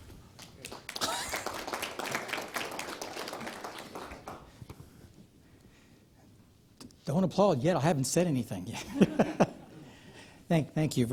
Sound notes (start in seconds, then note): 0.3 applause; 10.4 laughs